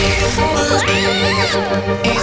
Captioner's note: confused screaming